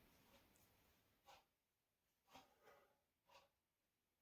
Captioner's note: clock ticking